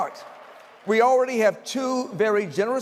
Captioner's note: applause